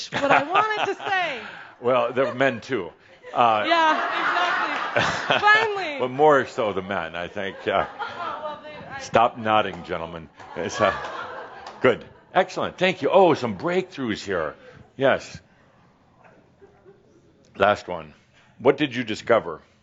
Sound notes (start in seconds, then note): 1.8 laughing; 3.2 laughter; 10.4 more chuckles